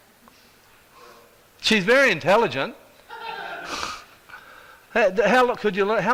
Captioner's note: audience laughs